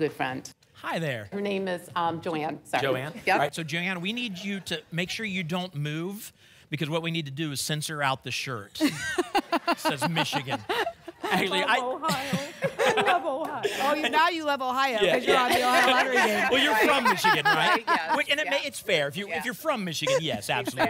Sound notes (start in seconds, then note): 8.8 laughter